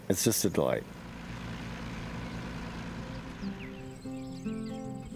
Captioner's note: tractor rumbling